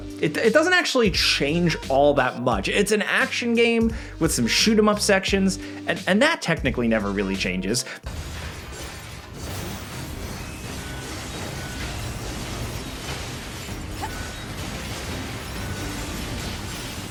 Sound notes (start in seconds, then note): 8.1 explosions booming; 8.9 weighty music